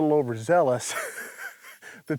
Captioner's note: laughing